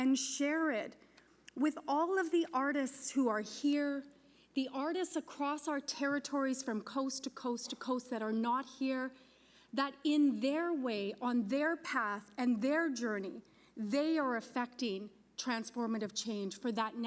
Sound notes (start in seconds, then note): none